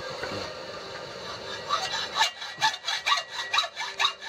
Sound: sawing sound

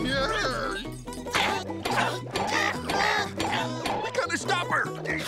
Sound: grunting

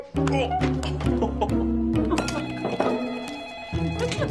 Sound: phone rings

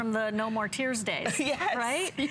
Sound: laughter

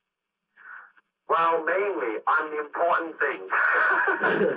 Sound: laughs; chuckles

